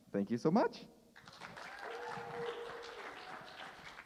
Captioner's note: cheers and applause